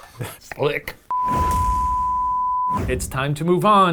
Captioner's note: digital beep; air whooshing